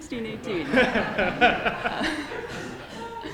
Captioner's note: laughter